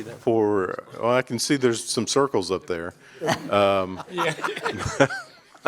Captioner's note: laughter